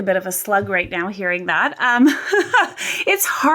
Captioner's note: laughs